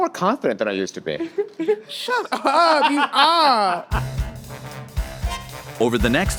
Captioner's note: all laughing